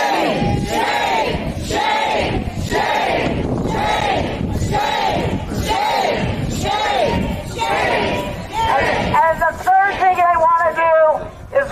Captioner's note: chanting